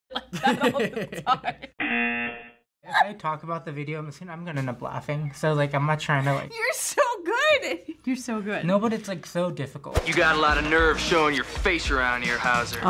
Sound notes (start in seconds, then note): 0.2 laughs; 0.2 chuckles; 1.8 buzzer